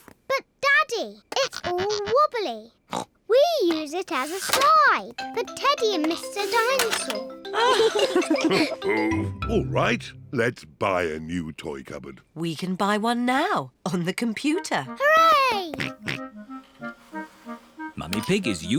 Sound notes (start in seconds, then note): 0.1 snorts; 7.5 both laugh; 14.0 snorts